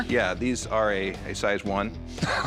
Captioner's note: laughs